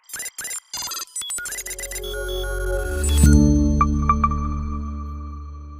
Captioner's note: image beeping; bright music